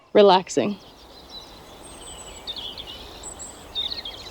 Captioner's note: birds chirping and singing